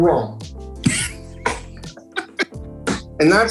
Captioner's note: both laughing